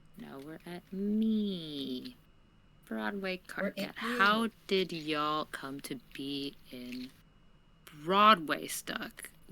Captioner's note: none